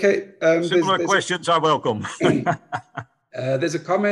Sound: laughs

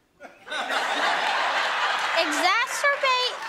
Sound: audience laughing

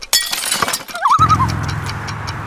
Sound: loon call

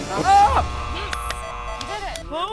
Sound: buzzing

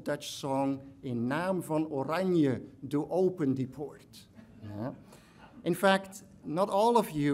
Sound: speaks in foreign language

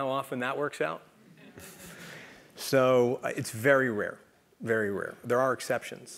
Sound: laugh

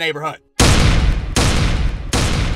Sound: bang; bang!

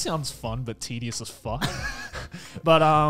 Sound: laughs

